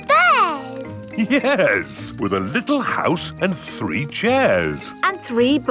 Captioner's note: chuckling